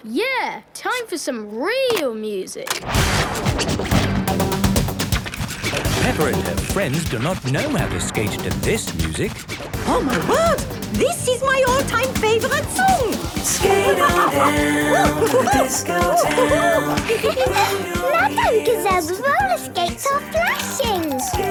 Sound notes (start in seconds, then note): 5.7 heavy dance music; 13.5 laughing and exclaiming